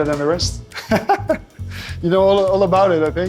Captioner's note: laughing